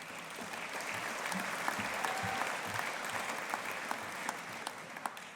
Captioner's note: audience applauding